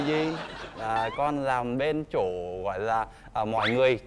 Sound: laughing

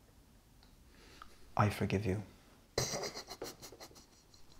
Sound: Michael sobs

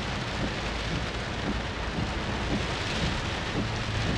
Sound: rain falling

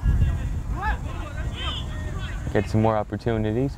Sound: players talking and yelling

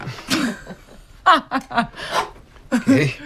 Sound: laughing

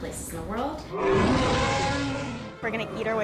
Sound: animal roaring

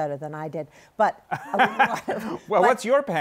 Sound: laughter

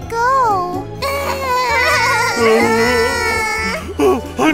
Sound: crying; gasp

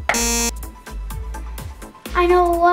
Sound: buzzer shrilling

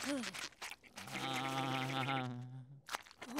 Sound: groaning

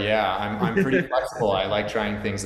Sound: chuckles

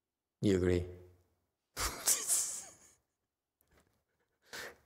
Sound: laughs

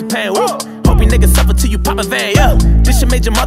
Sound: woo

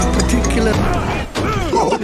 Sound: car Impact; yelling and Panic

